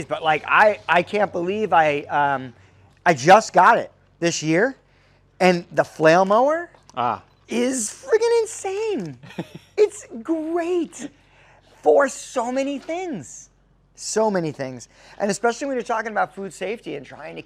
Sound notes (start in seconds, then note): 9.0 laughing